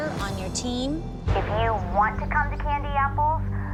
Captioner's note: on phone